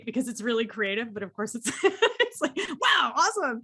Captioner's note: laughs